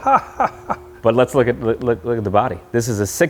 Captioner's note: chuckling